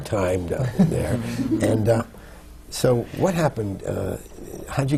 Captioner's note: laughter